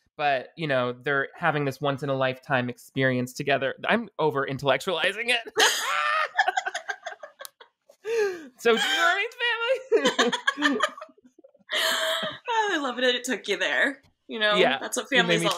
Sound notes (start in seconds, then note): 5.5 both laughing